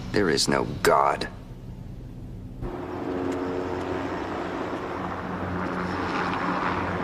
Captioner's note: helicopter blades whir